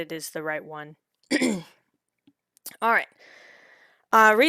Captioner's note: clears throat